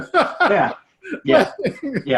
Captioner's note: laughing